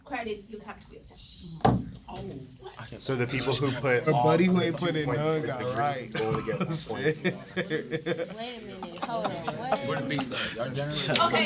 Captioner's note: students murmur